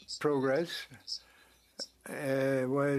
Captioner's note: speaking French